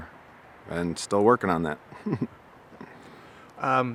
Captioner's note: chuckling